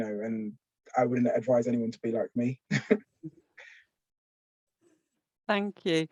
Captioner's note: laughs